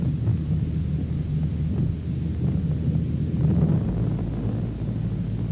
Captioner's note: spacecraft hovering